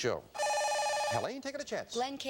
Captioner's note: buzzer